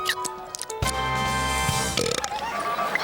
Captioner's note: belches